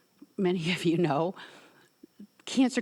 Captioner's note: chuckles